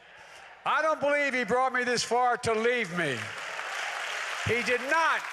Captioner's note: applause